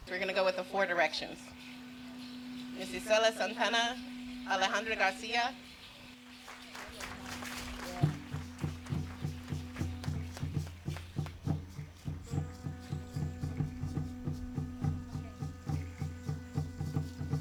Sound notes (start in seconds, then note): 6.4 applause; 8.1 drumming; 12.1 blowing shell